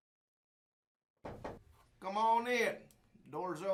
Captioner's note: knocking